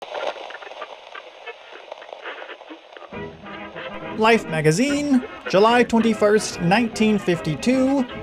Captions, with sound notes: [RADIO STATIC] Life Magazine, July 21, 1952.